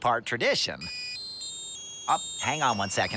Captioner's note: cell phone rings